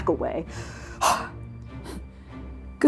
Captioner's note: exhaling; panting